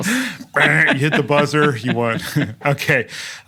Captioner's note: laugh